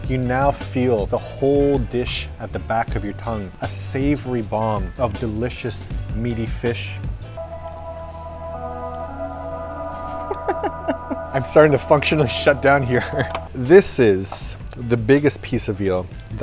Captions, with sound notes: You now feel the whole dish at the back of your tongue, a savory bomb of delicious meaty fish. (dramatic music) (hearty laughing) I'm starting to functionally shutdown here. This is the biggest piece of eel